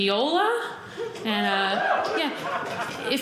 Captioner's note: audience cheering